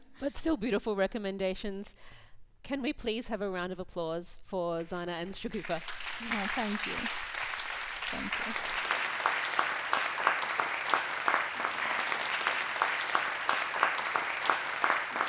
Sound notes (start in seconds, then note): 8.3 audience applauds